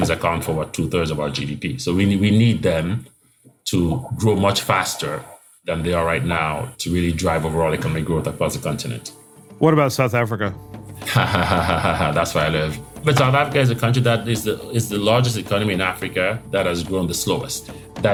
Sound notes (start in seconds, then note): 11.0 laugh